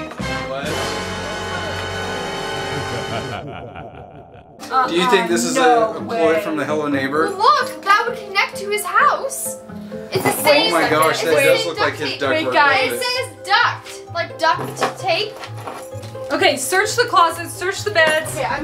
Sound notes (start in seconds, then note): 0.1 dramatic music; 2.3 evil laughing